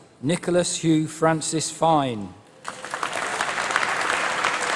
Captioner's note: applause